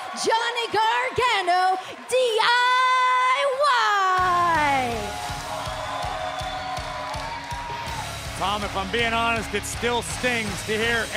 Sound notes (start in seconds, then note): 5.3 crowd cheering